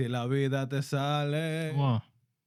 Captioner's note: non-english Speech